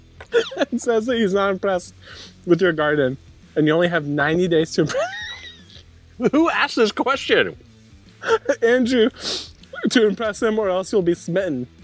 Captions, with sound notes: and says that he's not impressed with your garden. And you only have 90 days to impress. (laughs) - Who ask this question? - Andrew. (sniffs) To impress him or else you'll be smitten.